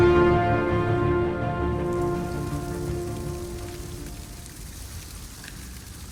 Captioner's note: falling water